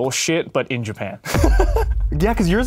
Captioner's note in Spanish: ríe